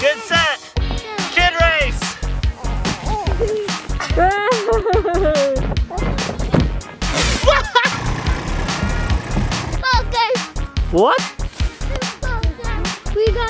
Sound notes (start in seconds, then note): 2.3 bright, upbeat techno music; 2.9 children giggling; 3.1 laughing; 7.1 laughing; 8.1 tractor engine rumbling